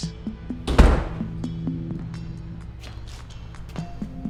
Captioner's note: door slamming